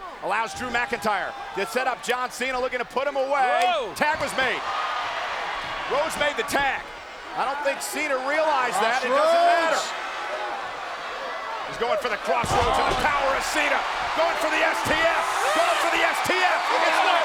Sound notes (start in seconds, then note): 12.4 body thudding; 13.7 crowd cheering